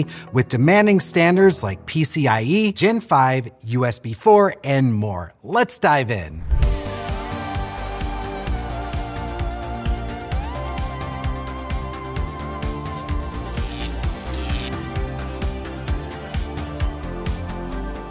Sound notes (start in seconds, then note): 6.9 upbeat music; 12.8 electricity zapping